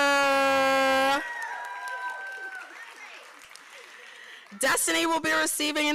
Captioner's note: applause